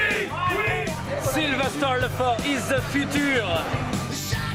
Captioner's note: fans chanting